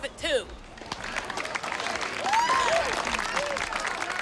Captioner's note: cheers and applause